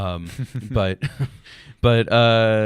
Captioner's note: laughs